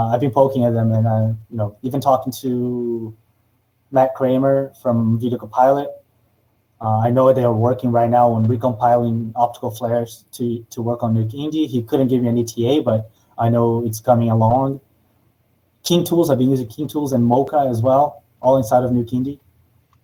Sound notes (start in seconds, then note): none